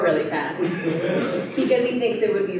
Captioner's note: laughter